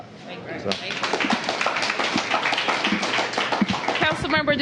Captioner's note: applause